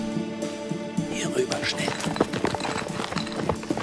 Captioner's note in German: Arne flüstert